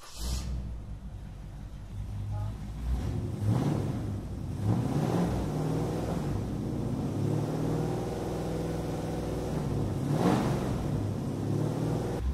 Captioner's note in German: Motor startet und läuft